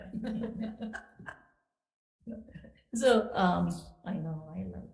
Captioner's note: committee laughing